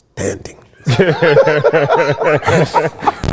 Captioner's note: laughter